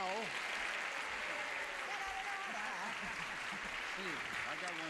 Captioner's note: applause